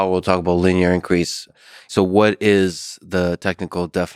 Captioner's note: none